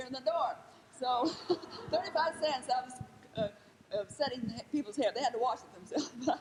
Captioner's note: laughs